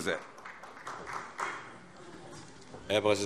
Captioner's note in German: Beifall